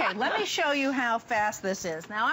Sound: laughter

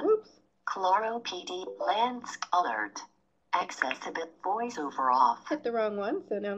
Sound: computer voiceover

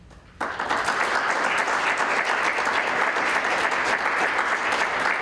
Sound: applause

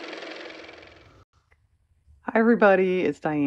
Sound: car motor

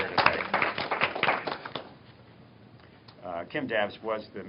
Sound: applause

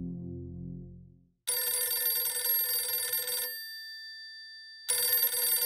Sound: phone ringing

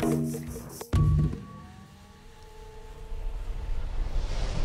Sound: machine whirring

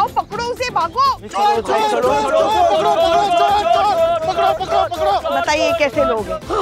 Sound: clamouring

